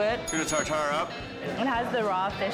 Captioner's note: bell dinging